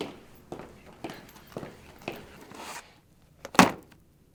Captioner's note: footsteps thumping